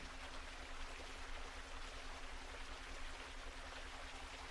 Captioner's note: water gushing